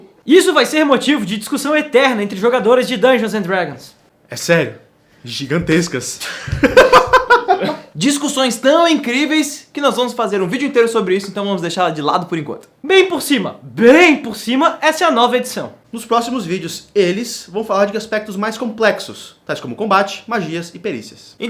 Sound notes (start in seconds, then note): 6.2 chaotic-neutral laugh